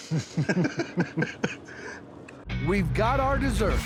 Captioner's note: both chuckling